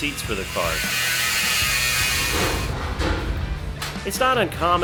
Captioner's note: grinder Grind